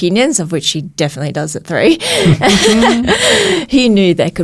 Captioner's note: laughs